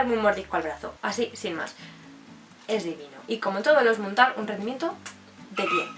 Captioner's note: kiss and squeak in the background